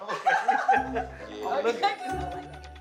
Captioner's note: laughter